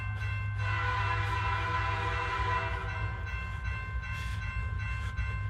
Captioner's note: train hissing